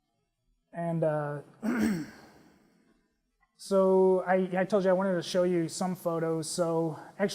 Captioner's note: cough